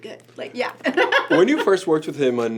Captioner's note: laughs